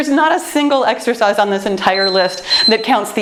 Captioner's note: timer beeps